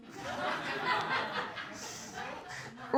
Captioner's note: laughter